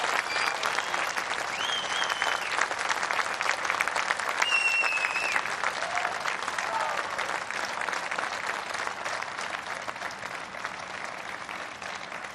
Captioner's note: applause